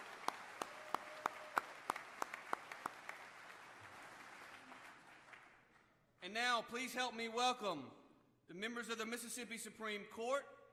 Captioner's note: applause